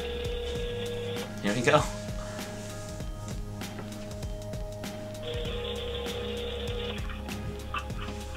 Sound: ringing

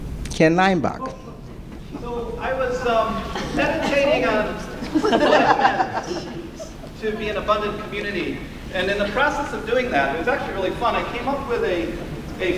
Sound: laughter

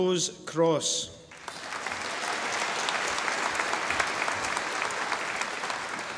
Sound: audience applauding

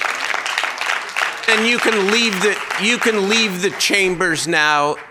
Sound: cheering

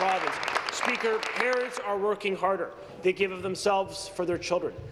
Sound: applause

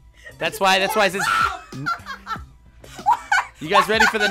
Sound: screams and laughs

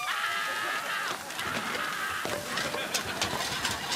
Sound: screaming

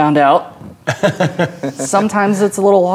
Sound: laughing

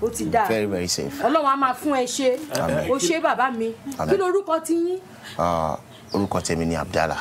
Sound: woman speaking in foreign language; speaking in foreign language

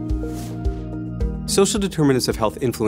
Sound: air whooshing

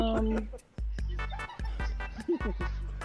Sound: more laughter

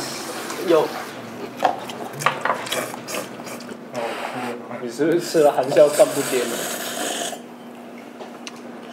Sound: slurping noodles ASMR

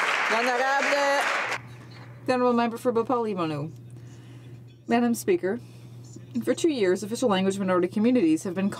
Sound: some Applause

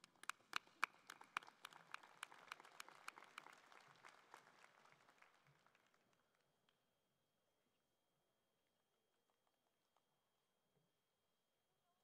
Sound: cheering and Applause

